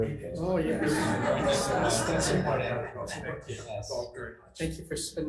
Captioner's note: members chattering; laughing